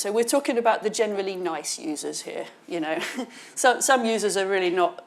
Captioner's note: chuckles